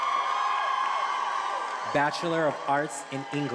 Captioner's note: attendees applauding and cheering